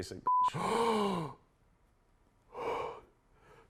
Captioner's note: gasps